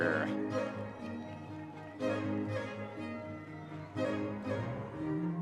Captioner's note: audience members cheering